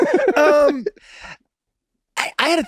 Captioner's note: Charlie and Rob laughing amusingly